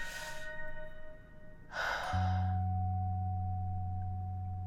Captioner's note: heavy sigh